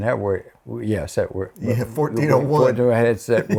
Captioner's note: laughs